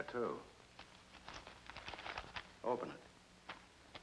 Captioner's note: paper rustling